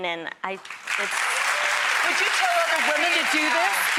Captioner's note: audience applause